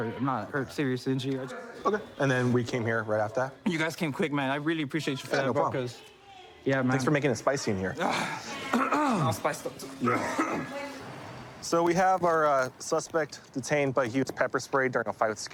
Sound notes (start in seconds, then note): 8.6 clears throat; 9.8 coughs